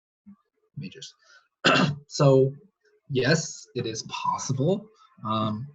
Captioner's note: clears throat